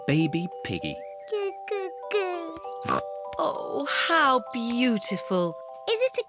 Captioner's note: snorts